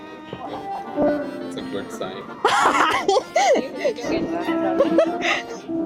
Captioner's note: laughs